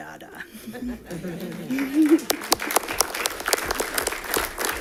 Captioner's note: audience clapping